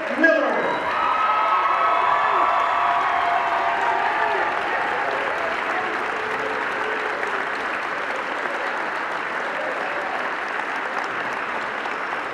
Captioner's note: cheering